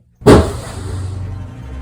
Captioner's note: loud bang; suspenseful music